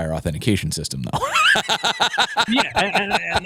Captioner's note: laughs